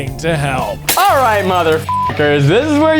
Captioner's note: beep